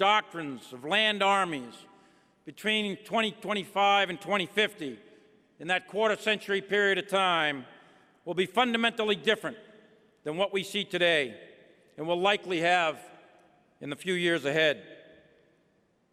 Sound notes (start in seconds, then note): none